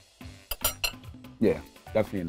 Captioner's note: fork clangs on plate